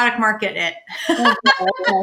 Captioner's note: laughs